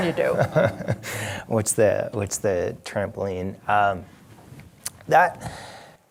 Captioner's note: laughs